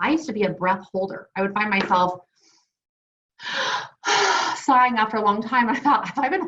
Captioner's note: gasps